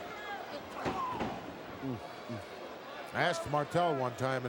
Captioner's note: crowd murmuring